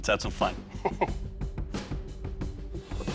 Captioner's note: chuckles; intense rock music